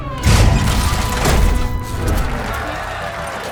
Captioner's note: crowd cheering, applauding